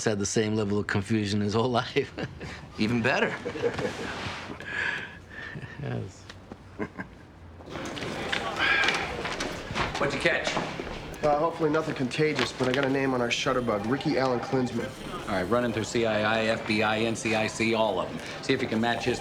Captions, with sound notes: had the same level of confusion his whole life. - Even better. - (laughs) You know, it's... - (laughs) - What'd you catch? - Well, hopefully nothing contagious, but I got a name on our shutterbug. Ricky Allan Klinsman. - All right, run him through CII, FBI, NCIC, all of 'em.